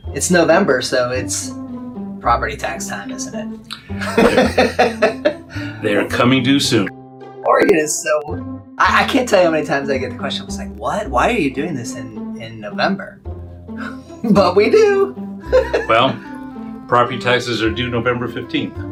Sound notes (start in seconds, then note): 3.9 laughs; 15.4 laughs